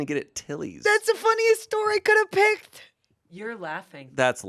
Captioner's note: laughs